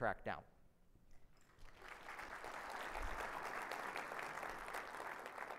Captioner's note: audience applauding